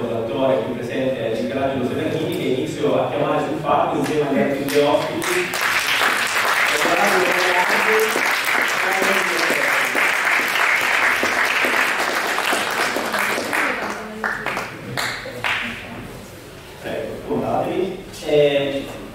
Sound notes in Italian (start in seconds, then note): 10.1 Applauso